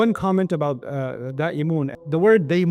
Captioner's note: Arabic